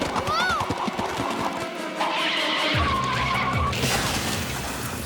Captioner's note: screech!; crash!